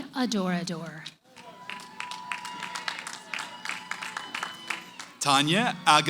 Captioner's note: cheering, applause